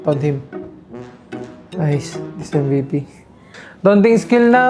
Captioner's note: sigh